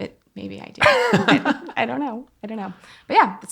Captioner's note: laughing